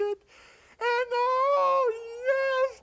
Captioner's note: none